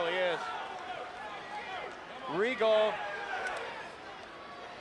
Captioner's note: crowd chatter